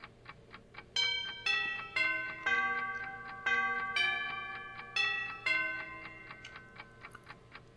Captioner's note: clock striking